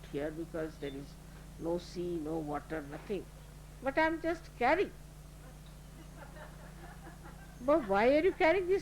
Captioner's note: laughter